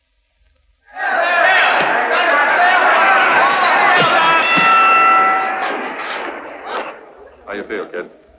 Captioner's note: crowds yelling